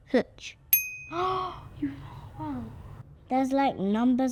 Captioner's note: gasps